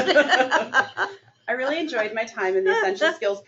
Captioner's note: laughter